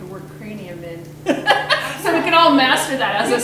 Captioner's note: laughing